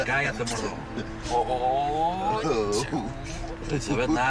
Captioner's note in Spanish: Exclamaciones